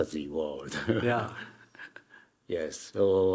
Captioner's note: Hiroshi chuckling